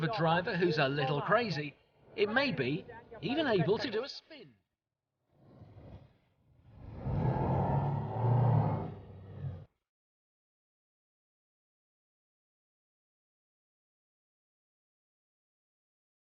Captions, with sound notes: a driver who's a little crazy, it may be even able to do a spin. (boat engine revving) (silence)